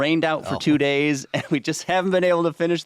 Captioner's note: chuckling